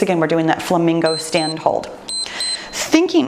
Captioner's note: timer beeps